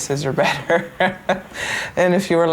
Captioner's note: laughs